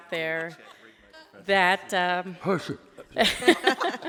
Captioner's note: laughs